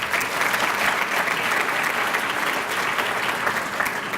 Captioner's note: applause